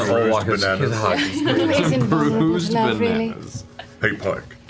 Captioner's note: laughs